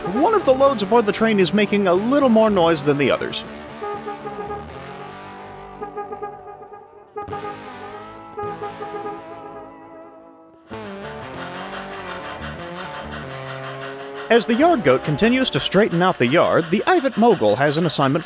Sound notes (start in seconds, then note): 2.7 distant honking